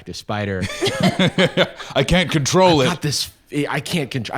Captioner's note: laughs